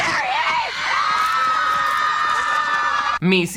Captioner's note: Brittany screams